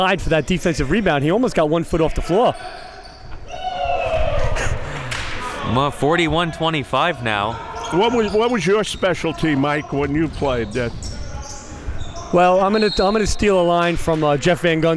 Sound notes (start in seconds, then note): 4.3 cheering and applauding; 12.6 whistle blows